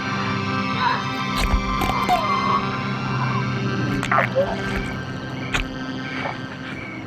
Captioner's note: innards squeaking; groaning